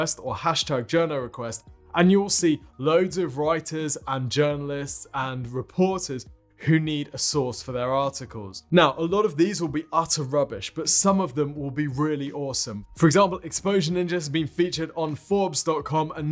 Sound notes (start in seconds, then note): none